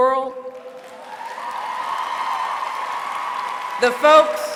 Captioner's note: applause